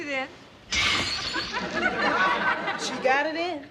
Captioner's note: glass shattering